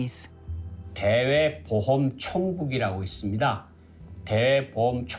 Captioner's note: speaking Korean